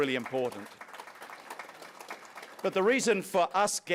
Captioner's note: applause